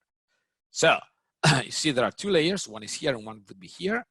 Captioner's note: clears throat